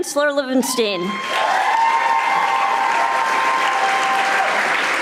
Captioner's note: audience applauding